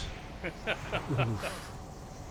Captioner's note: laughing